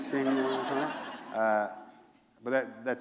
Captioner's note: laughter